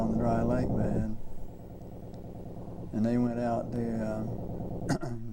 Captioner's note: clears throat